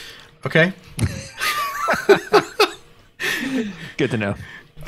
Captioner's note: both laughing